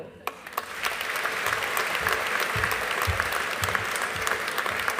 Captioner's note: audience applauding